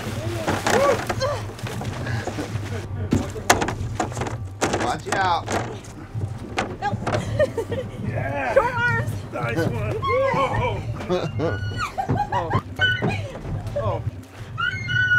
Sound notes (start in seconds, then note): 0.1 laughing; 4.5 chuckling; 8.8 laughing